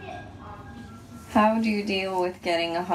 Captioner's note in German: englisch